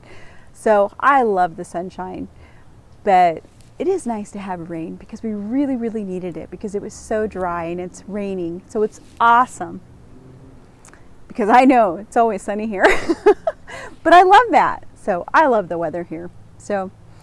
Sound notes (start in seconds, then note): 12.8 laughs